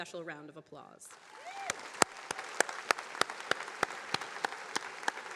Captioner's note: attendees applauding